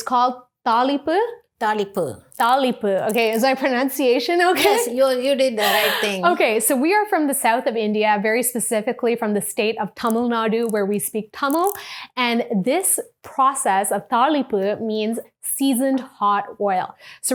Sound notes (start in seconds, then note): 5.6 chuckles